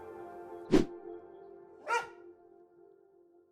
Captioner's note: wooshing; barking